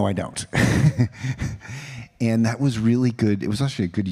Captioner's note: laughs